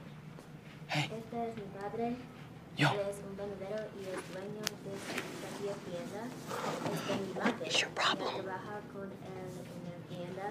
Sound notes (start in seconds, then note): 0.5 whispering; 1.1 girl speaking spanish; 7.0 whispering